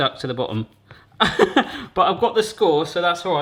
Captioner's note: laughs